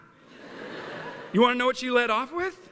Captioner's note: laughter